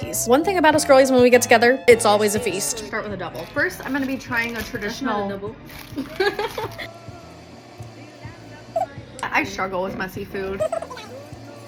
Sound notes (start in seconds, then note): 5.9 laughs